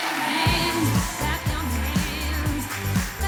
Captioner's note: cheering